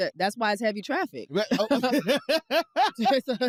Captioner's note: laughs